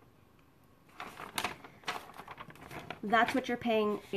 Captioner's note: paper rustling